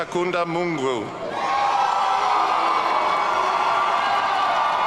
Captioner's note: audience cheering